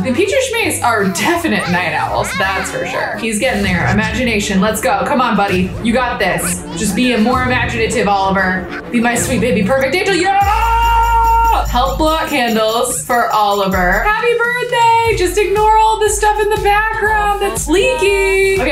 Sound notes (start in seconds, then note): 9.7 yells